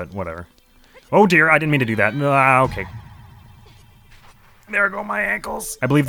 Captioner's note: strained